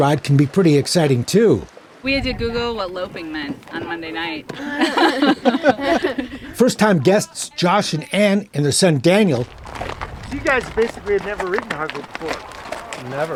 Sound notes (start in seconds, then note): 4.6 laughs